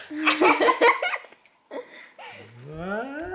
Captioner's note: laughs